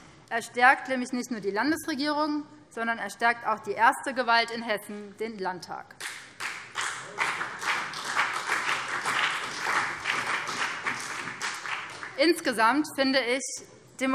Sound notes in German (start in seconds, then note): 6.0 Beifall BÜNDNIS 90/DIE GRÜNEN und CDU